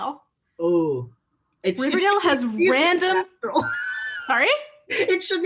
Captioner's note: laughter